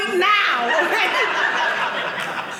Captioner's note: audience laughing